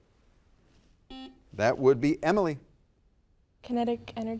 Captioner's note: buzzer dings